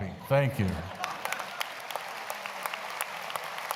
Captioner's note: applause